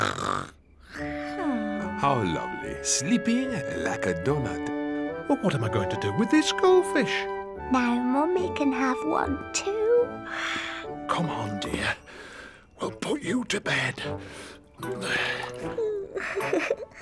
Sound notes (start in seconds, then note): 0.0 snores; 11.2 yawns